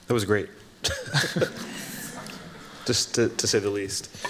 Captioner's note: both chuckling